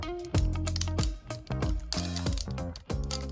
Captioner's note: plastic crinkles